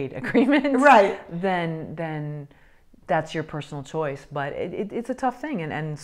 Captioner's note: laughs